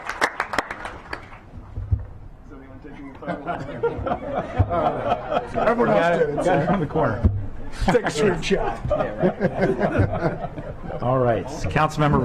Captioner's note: clapping